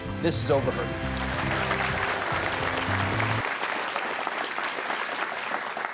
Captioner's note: audience applause